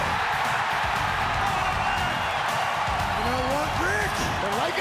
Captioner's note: crowd cheering